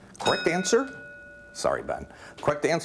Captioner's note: ding